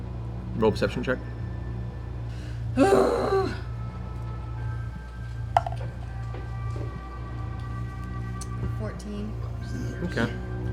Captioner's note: groans